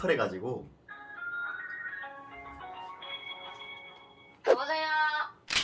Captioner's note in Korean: 통화연결음